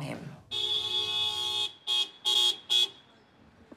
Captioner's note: car honking